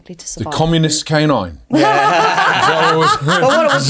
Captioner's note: all laughing